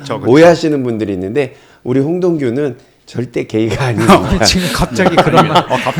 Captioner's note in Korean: 웃음